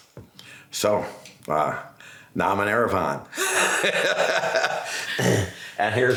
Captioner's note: laughs